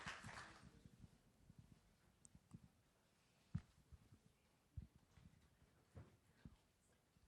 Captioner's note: applause